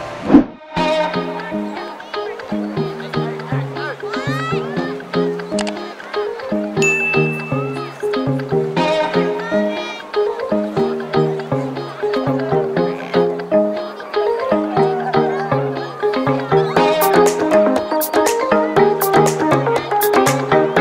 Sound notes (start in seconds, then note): 0.3 soothing upbeat music; 6.8 bell dinging; 8.6 soothing upbeat music